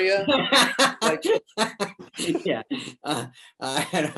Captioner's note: David laughs